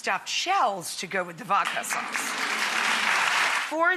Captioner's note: audience applauds